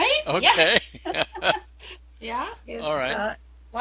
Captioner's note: laughs